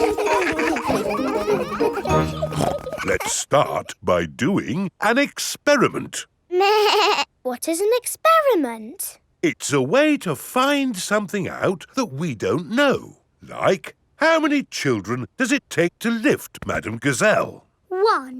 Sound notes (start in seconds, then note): 0.0 children laughing; 2.3 snorts; 6.7 bleating